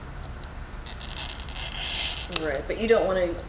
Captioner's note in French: cracking